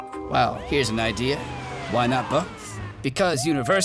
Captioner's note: siren wails